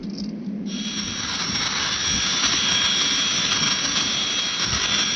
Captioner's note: machine whirring